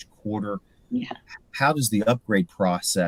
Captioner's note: laugh